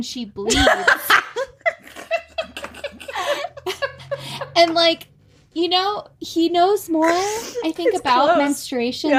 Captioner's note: cackling